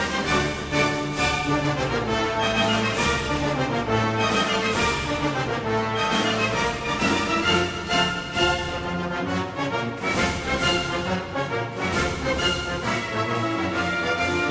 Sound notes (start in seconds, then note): none